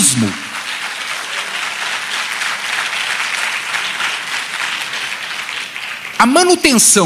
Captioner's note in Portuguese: Aplausos